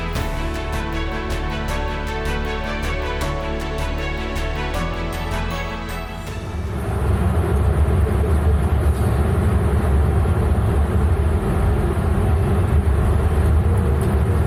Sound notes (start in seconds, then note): 0.0 uplifting music; 7.9 plane engines rumbling